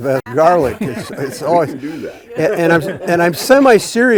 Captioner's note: all laughing